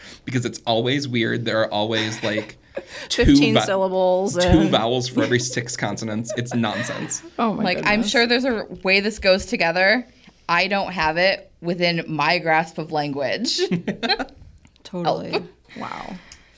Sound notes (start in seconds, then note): 13.6 laughs; 13.6 everybody laughs